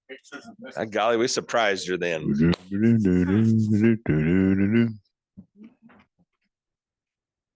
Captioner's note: humming